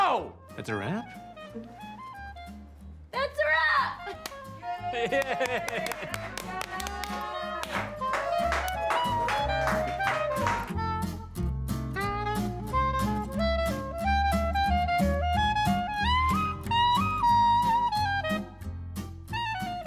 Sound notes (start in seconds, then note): 3.4 laughs; 4.6 all cheer